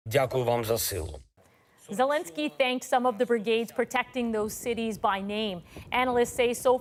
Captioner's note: speaking alternate language